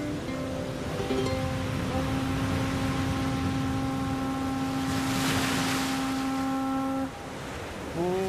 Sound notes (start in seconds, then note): 4.3 conch shell blowing